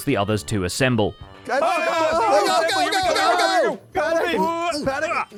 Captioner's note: group commotion; continued yelling